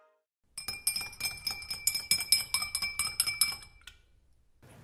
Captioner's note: spoon clinking on glass